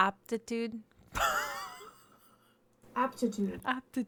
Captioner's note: laughs